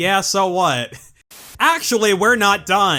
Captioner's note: static